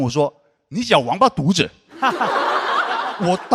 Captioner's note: in a northern dialect